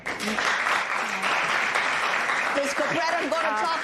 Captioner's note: applause